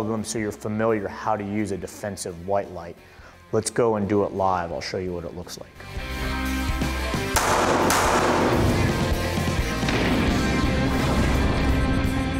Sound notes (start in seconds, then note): 6.0 action music; 7.3 gunshots